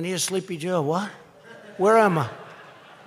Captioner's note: laughter